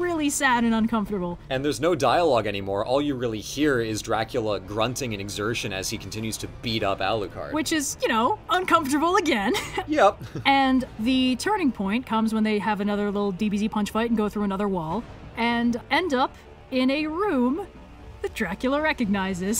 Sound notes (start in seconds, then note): 9.3 laughs!